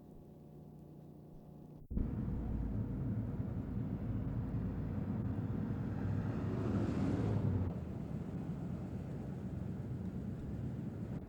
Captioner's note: street noise